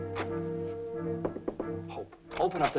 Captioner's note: knocking softly